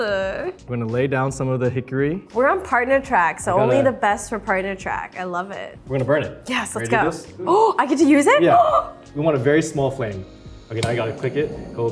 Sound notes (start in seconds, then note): 7.7 Arden gasps